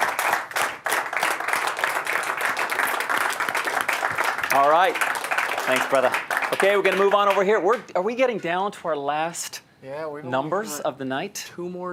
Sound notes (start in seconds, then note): 3.5 applause